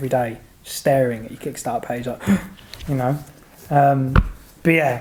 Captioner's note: gasps